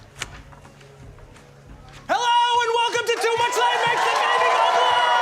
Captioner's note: audience cheering